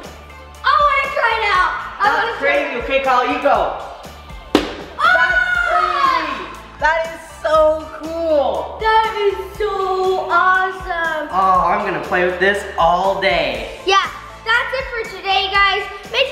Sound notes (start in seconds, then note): 4.6 splatting